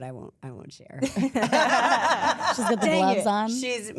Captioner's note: all laughs